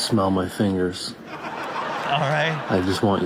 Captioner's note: audience laughs